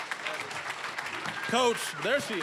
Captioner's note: applause